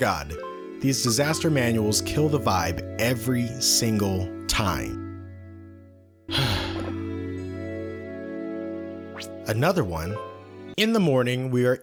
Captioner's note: sigh